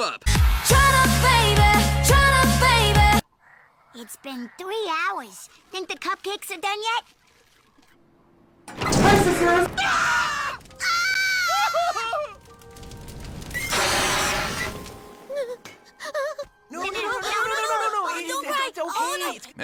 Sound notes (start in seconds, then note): 16.8 starts crying